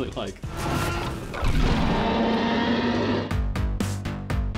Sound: roaring

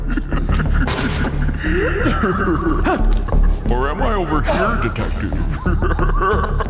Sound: giggles; Detective gasping

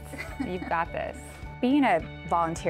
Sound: patient giggling

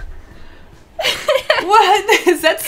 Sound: laughs

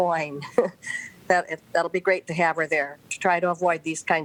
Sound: laughter

